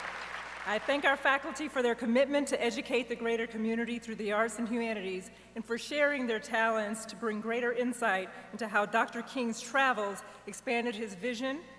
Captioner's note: cheers and applause